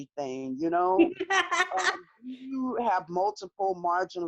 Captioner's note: laughs loudly